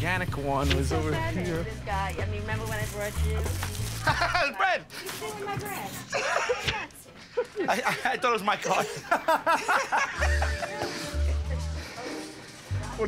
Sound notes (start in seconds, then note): 3.4 laughs; 7.2 laughter